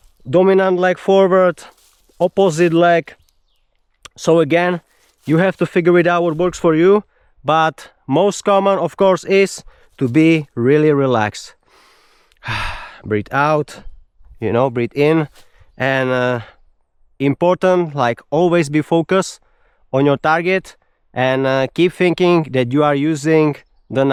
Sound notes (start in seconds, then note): 11.6 sighs and gasps